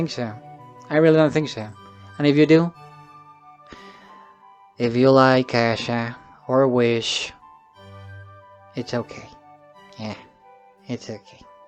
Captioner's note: sigh